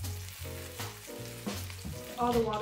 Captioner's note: sizzling